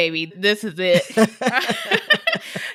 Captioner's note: laughter